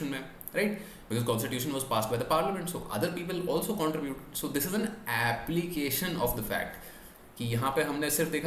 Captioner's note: speaks in english